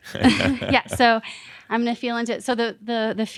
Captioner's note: they chuckle